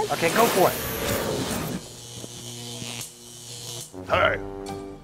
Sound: electric zaps

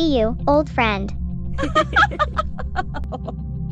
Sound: both laughing

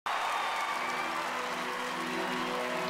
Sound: audience cheering

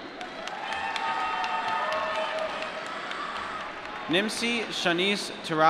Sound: applause

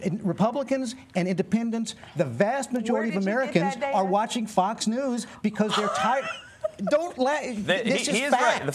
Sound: laughter

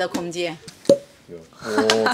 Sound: pop

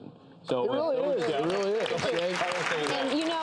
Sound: applause

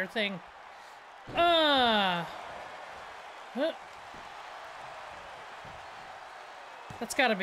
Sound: applause

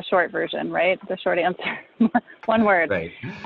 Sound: laughs

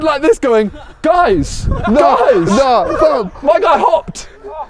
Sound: men laughing

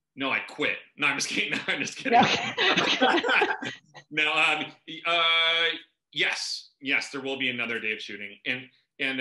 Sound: laughter

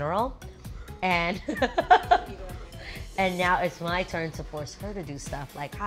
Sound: laughs

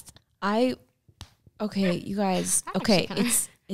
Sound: hand slaps; laughs

